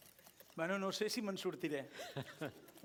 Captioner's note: non-english speech